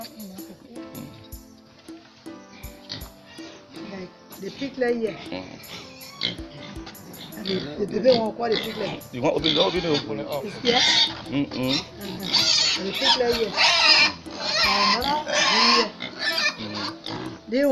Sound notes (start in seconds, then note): 5.5 pigs oinking; 13.2 piglets squealing